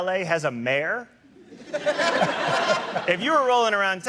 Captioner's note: laughter